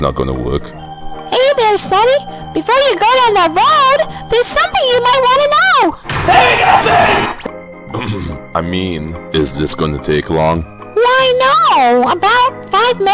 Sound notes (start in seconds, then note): 6.1 yells